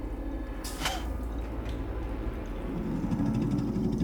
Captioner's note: spits; growling